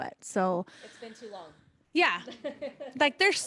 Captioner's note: laughter